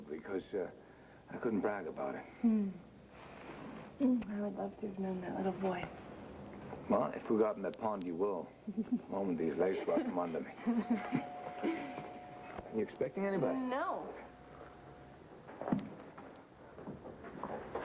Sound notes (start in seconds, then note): 13.1 doorbell rings